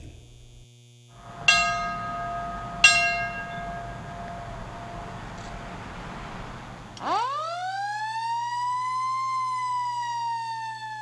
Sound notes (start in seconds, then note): 7.3 bell ringing; 10.6 sirens